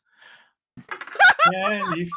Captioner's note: laughing